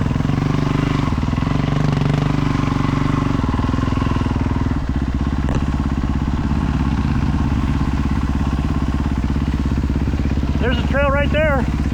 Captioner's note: engine revving